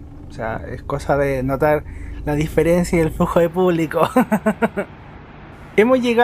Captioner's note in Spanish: risas